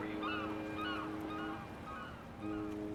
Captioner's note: bird squawking; gentle music